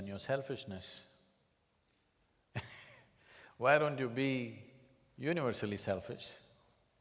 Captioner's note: laughs